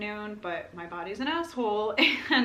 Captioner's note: laughter